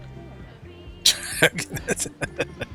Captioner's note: laughing